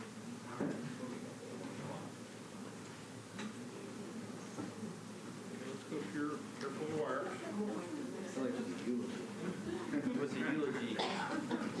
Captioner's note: laughter